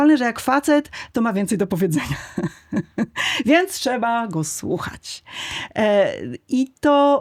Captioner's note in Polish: śmiech